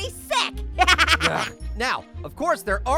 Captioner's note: laughs